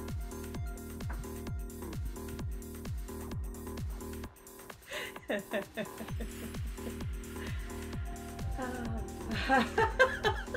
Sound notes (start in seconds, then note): 5.0 laughing